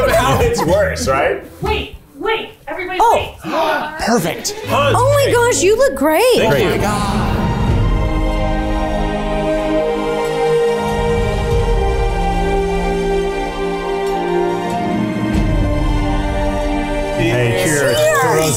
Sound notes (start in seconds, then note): 3.4 gasps